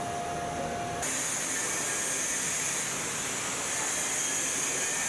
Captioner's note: machine whirring